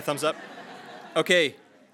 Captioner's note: attendees laughing